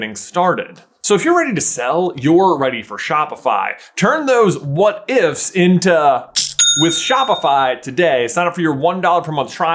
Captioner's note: cha-ching!